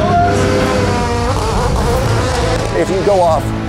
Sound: car engine revs

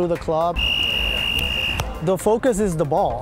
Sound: whistle

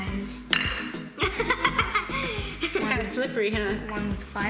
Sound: laughs

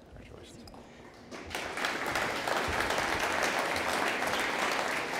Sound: audience applauding

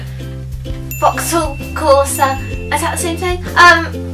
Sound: ding

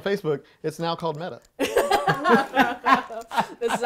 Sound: group laughing

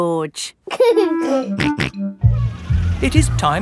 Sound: giggling and snorting

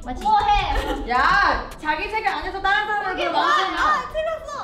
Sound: speaks in Korean

